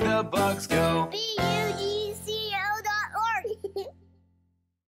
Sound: giggling

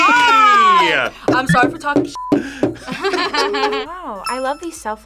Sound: laughs

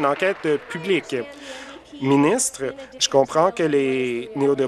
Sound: applause

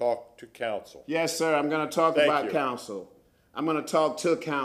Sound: sounding gavel

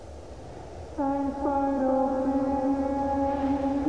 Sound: rushing wind; Rococoa, muffled

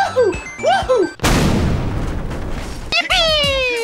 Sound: explosion

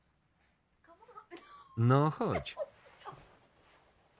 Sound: laughs

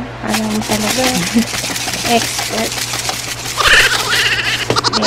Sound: laughs

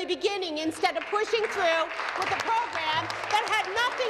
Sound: some Applause

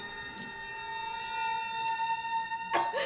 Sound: coughing

